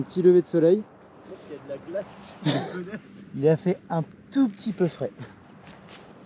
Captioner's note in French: rires